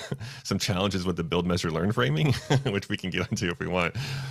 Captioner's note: laughs; laughs